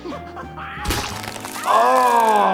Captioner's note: Nutty's jaw snapping